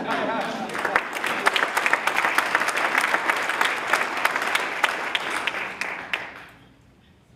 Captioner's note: applause